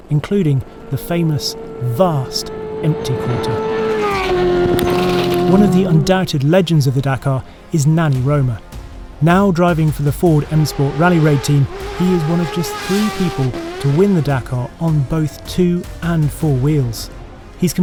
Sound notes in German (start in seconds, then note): 3.5 Motor heult auf